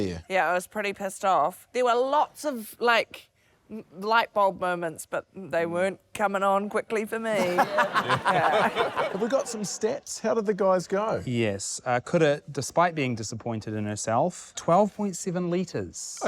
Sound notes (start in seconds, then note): 7.3 laughter